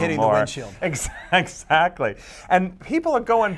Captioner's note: laughs